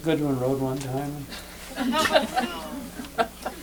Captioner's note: laughter